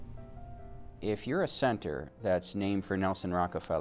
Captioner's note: voiceover